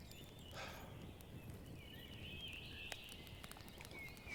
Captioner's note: Jim sighing